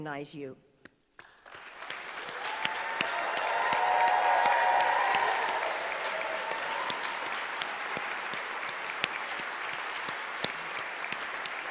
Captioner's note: applause